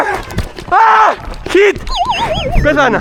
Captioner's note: crying for help